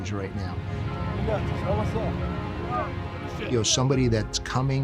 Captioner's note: cadets vocalizing